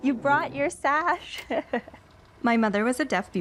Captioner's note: laughs